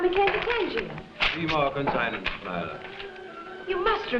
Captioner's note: Tadeus speaking foreign language